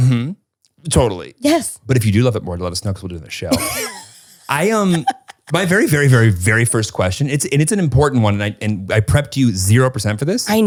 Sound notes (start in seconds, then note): 4.4 laughs